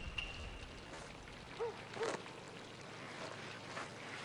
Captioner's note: dog barking